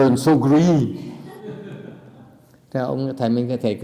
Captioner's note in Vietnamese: laughter